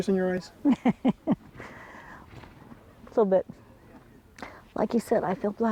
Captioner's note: laughs